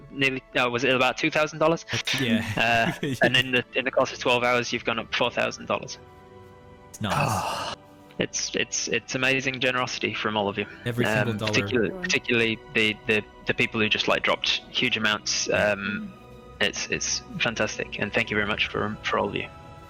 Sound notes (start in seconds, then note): 7.0 relieved sigh